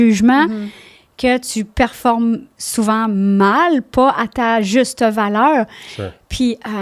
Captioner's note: in french